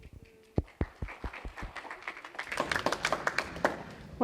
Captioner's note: applause